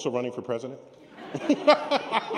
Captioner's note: laughter